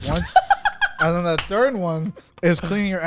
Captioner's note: laughs